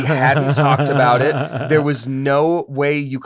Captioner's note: laughter